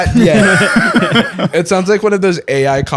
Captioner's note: laughter